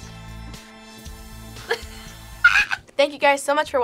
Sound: laughs

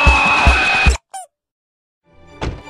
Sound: rubber Duckie Sound

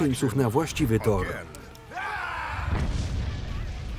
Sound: shouting

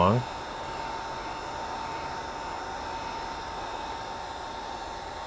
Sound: heat gun blowing

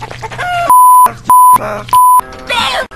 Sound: beep

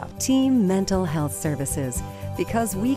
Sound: voiceover

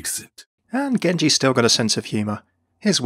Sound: voiceover

